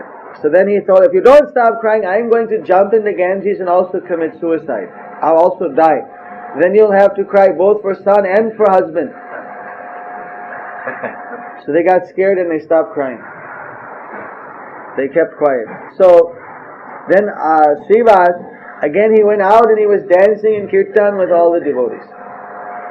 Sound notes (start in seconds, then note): 10.6 devotee chuckles